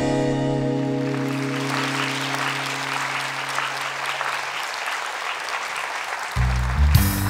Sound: applause

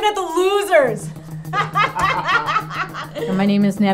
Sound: laughter

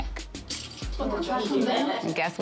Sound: indistinct chatter

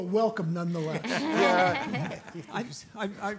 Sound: audience laughing

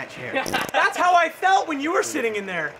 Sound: farting

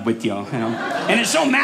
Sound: audience laughing

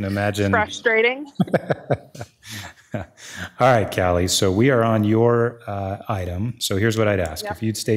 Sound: chuckling

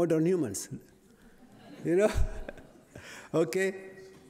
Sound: laughter

